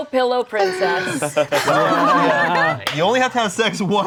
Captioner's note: everyone laughing